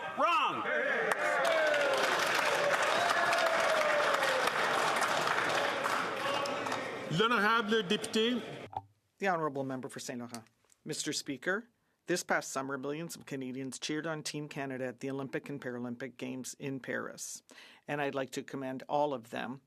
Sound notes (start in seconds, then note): 4.4 some Applause